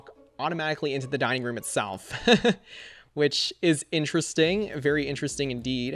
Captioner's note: laughs